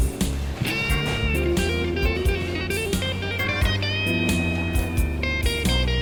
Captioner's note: diner sounds